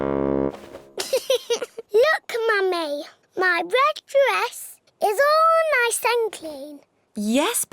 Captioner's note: giggles